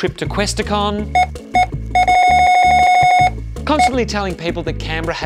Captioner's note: scanner beeping repeatedly